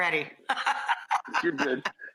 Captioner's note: laughs